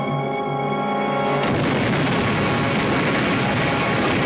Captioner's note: blasting